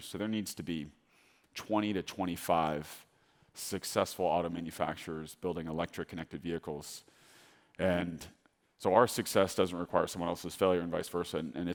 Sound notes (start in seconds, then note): none